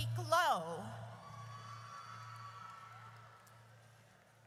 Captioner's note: audience cheers